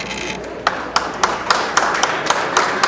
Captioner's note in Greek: το κοινό χειροκροτεί